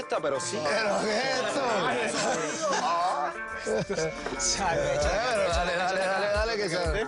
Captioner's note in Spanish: Comentarios al unísono